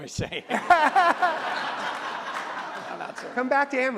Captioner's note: audience laughs